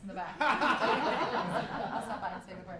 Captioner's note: laughter